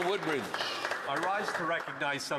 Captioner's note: applause